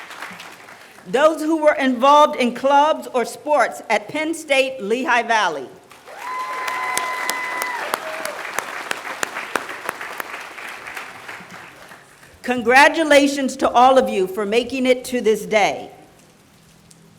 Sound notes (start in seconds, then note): 5.8 applause